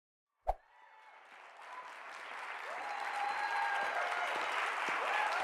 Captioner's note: cheering and applause